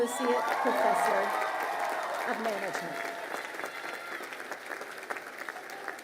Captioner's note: crowd cheering and applauding